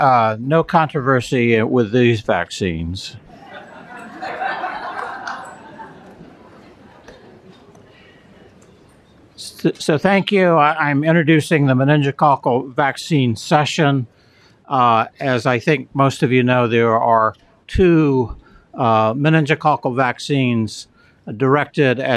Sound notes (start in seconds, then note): 3.3 laughter